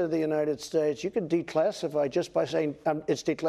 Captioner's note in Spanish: HABLAN EN INGLéS